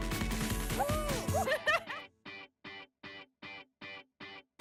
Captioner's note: laughs